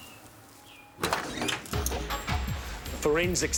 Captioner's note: doors creak; suspenseful music